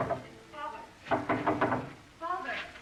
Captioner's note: knocking at door